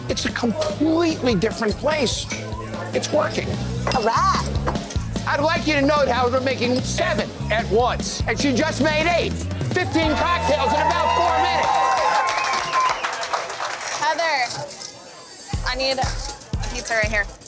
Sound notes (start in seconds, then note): 11.8 cheering